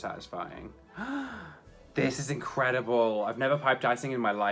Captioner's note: gasps